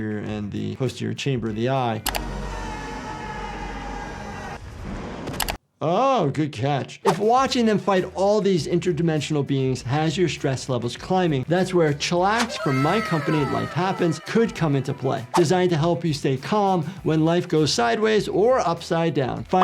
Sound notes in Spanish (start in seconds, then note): 1.3 música alegre; 2.4 niño gritando